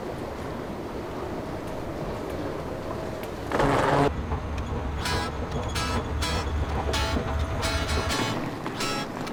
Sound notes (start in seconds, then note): 3.4 escalator moving